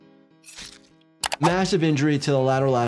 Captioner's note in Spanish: música pensativa; sangre chapoteando